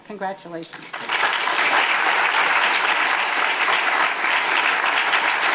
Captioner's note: audience applause